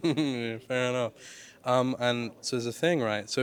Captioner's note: chuckles